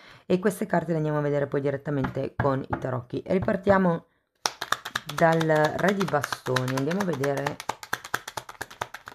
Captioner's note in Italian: Applauso